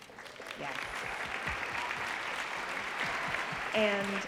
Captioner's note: audience applauding